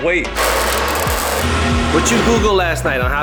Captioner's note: scratch